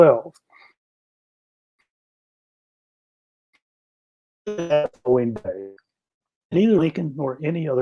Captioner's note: sound difficulties